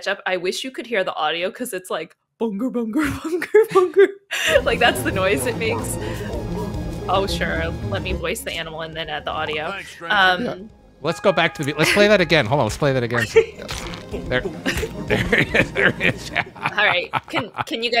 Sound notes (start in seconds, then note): 4.3 laughs; 6.1 game sound effects; 13.0 laughs